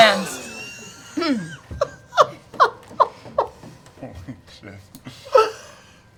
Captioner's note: quietly